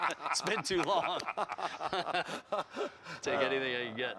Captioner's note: laughter